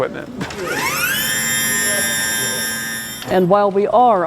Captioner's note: bed motor whirring